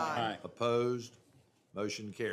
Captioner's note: chorus of ayes